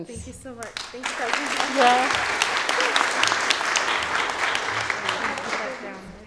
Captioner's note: audience applauding